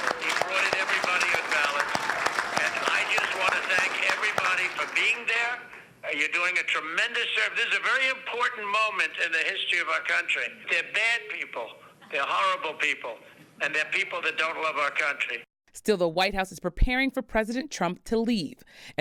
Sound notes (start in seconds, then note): 0.0 applause